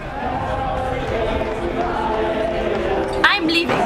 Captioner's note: cheering